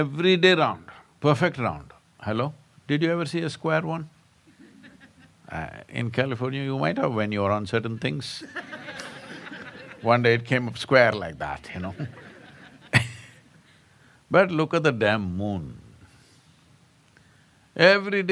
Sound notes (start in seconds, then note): 4.5 laughter; 8.4 laughter; 11.8 laughs